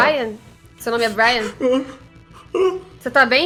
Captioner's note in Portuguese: suspiros